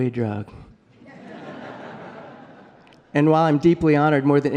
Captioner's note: laughter